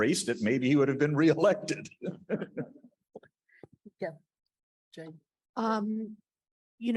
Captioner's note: laughs